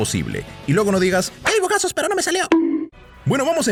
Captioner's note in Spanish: Bonk